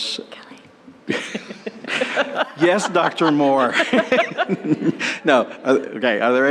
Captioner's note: laughter